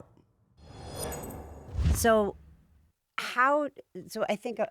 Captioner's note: scene whooshing